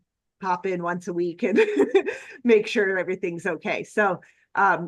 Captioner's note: laughs